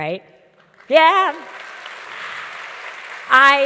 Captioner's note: audience claps